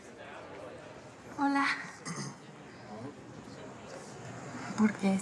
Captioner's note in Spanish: Carraspea